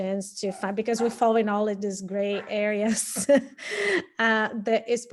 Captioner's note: laughing